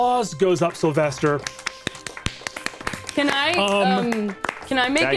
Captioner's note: all clapping